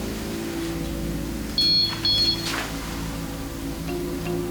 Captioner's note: beeping